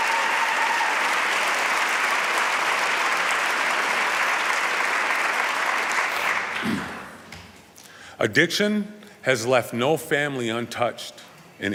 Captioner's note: applause